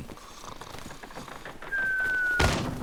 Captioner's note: snores